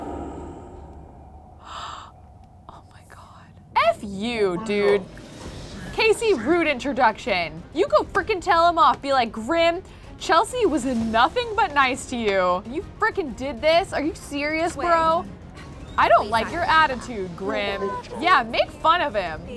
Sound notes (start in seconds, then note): 0.0 gasps